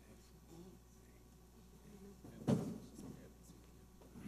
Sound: people talking

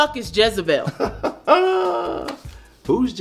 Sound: Tony laughs

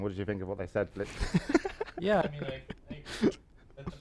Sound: laughter

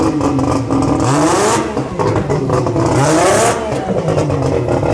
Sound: car engine revving

